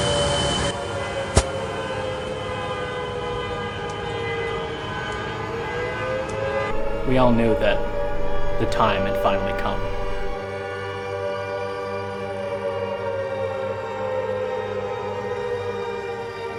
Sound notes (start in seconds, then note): 3.7 sirens and car alarms